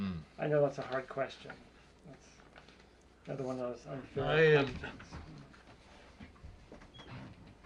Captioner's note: pause